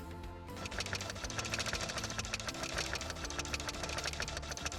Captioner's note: printer buzzing